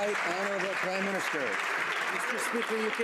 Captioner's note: some Applause